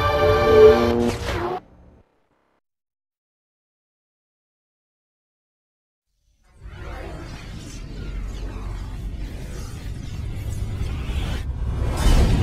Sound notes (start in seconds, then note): 0.8 mechanical sounds; 2.3 silence; 6.6 dramatic twister and helicopter sounds